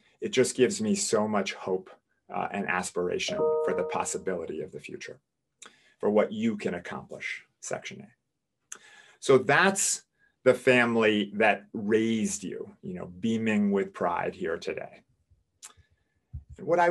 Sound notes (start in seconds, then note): none